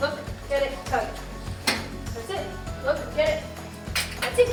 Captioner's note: dryer door clicking